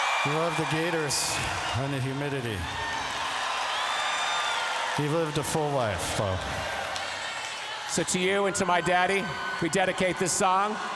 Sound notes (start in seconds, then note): 2.7 cheering continues